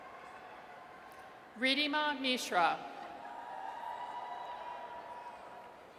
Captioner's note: audience cheers